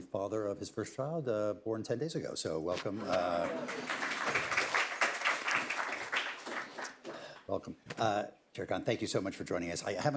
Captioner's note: applause